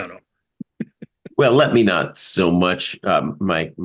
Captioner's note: laugh